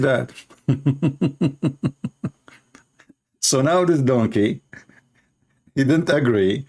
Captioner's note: Ketawa